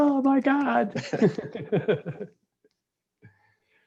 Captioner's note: all laughs